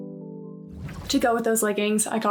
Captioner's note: graphic whooshing; smooth music; graphic whooshing